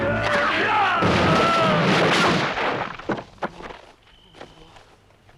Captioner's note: door clatters; crickets chirping